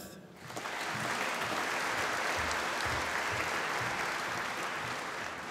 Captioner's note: applause